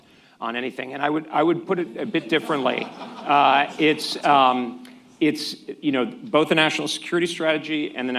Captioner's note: laughter